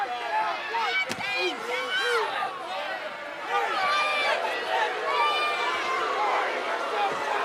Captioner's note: audience shouting